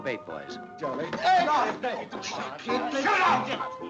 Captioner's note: people chattering